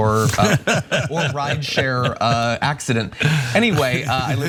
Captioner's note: laugh